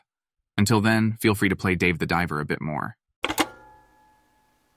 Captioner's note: phone click